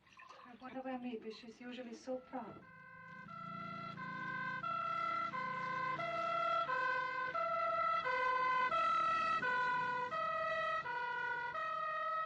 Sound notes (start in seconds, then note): 3.2 siren Wailing